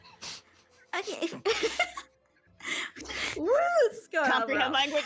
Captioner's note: laughing